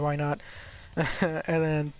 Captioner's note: nervous chuckle